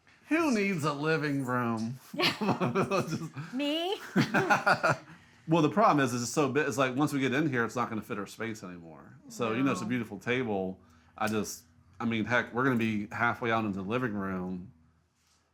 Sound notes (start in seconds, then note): 4.0 both chuckles; 4.0 chuckles